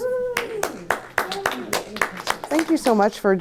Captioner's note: audience applauding